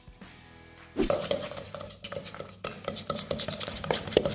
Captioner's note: stirring